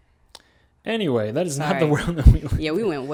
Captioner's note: laughs